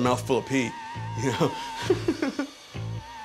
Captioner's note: laughs